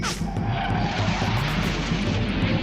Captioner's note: jet engine whooshing